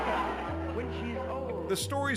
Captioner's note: crowd laughs